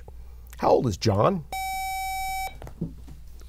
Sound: buzzer

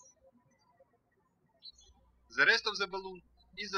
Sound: birds chirping

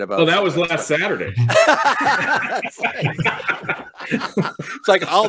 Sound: all the men laugh

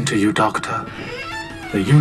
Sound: door shuts

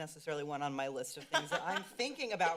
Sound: laughs

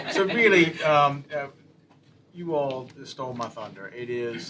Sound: laughter

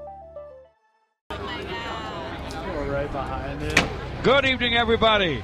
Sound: crowd chatter

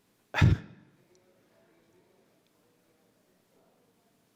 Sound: scoffs

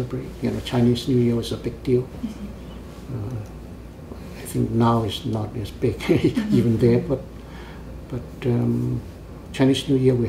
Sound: laughs

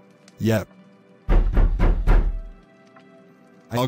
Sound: SFX: Knocking

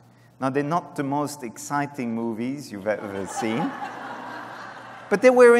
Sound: laughter

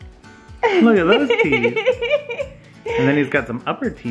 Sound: laughing

